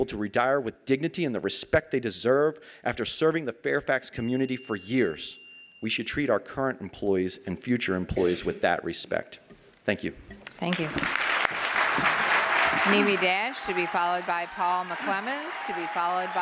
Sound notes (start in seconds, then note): 10.7 applause